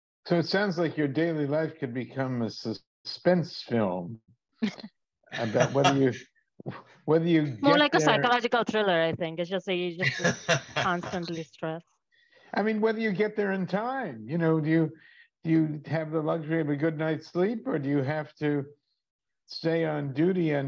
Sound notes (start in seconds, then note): 5.3 chuckles; 5.3 laughs; 10.0 laughs